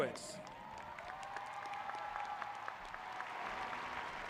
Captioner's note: applauding